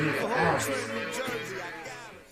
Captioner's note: voiceover